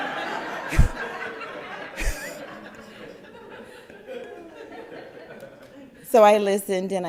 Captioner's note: crowd laugther